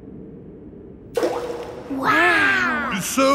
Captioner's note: rock plops